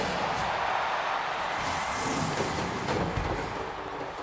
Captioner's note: audience cheers